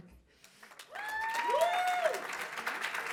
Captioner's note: applause